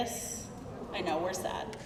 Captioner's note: crowd murmuring